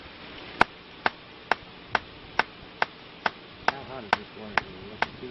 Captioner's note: tree knocking